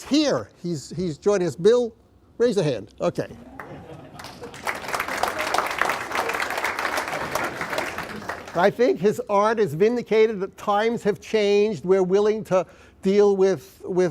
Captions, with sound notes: NOW, IT TURNS OUT THAT BILL SPATA IS HERE. HE'S JOINING US. BILL RAISE YOUR HAND, OKAY. [ APPLAUSE ] I THINK HIS ART IS VINDICATED. TIMES HAVE CHANGED.